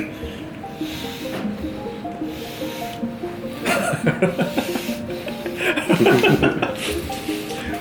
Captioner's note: heavy breathing